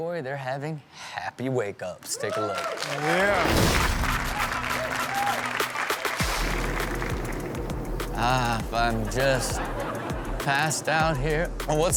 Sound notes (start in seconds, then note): 2.0 audience cheers; 3.3 upbeat music